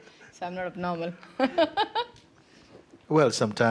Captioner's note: giggles